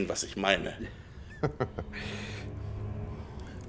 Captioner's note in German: lacht